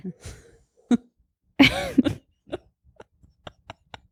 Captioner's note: both laugh